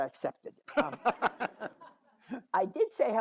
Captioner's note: all laugh